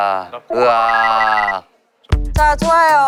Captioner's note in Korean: 로봇 연기